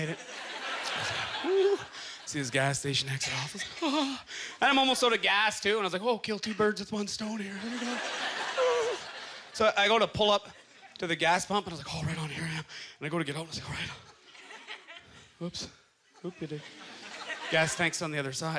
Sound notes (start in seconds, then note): 8.4 grunting